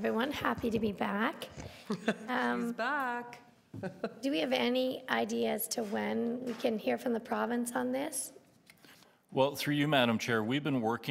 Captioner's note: laughter